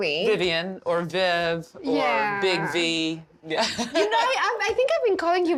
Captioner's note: laughs